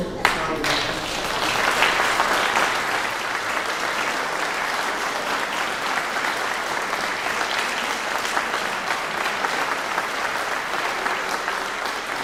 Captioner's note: clapping